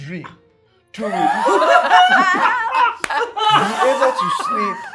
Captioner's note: laughing